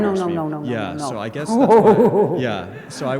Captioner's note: speaker laughs